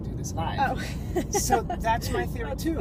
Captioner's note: laughs